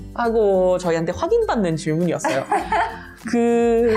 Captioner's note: laughing